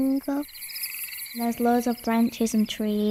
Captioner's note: jungle animals calling